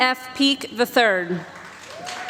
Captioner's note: applause